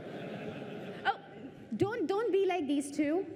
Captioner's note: laughter